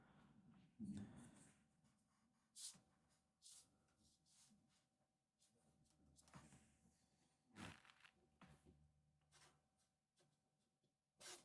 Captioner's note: silence